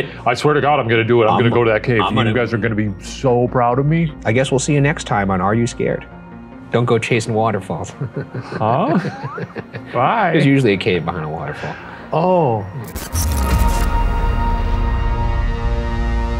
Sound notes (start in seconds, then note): 8.0 chuckling; 13.5 ominous music